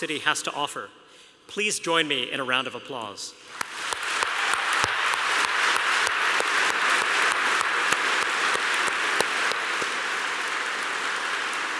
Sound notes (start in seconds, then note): 3.7 applause